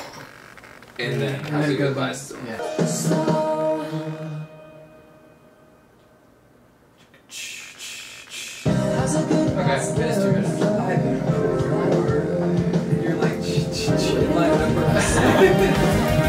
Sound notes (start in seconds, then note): 4.7 long Pause; 7.2 mouths cymbal noises; 14.5 laughs